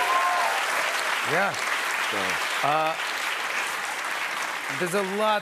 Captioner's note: cheers and applause